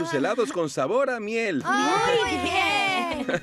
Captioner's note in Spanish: risas